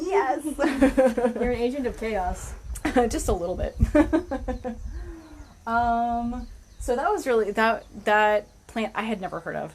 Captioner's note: laughter; laughter